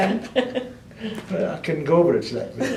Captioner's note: laughter